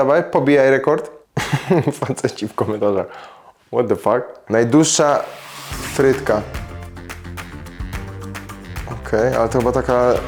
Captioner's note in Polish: śmiech